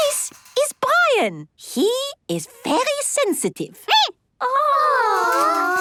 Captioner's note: squeaking